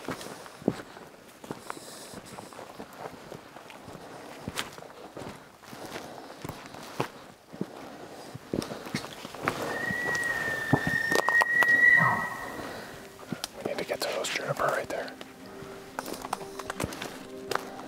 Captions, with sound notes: (Elk bugling) We need to get to those juniper right there.